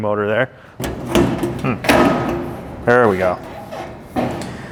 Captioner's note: metal clanking